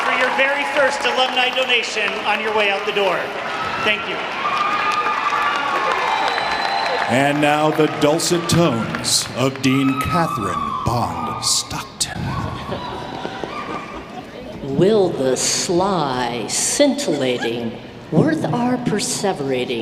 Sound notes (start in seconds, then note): 5.7 audience cheering